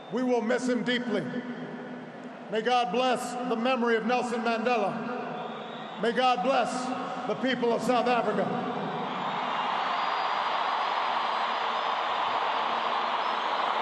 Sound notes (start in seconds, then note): 8.8 applause